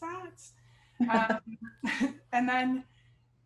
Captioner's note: chuckles